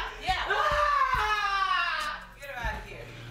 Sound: Crystal screaming

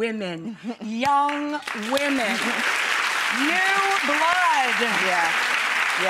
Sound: clapping

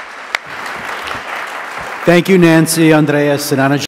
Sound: applause

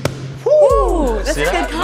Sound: Debbie hitting punch mitts; both exclaim

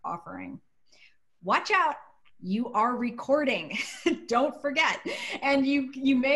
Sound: laughter

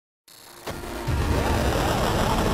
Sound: buzzing; dramatic music

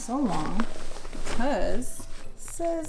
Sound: blanket rustling

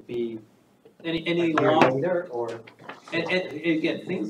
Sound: indistinct chatter

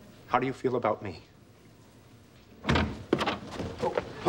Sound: door opening

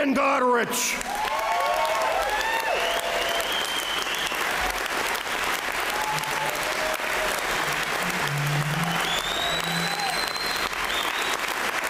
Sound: applause

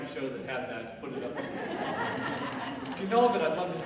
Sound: audience laughing

